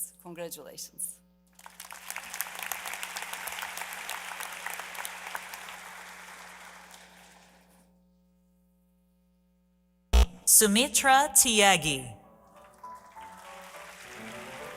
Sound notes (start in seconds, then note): 5.3 applause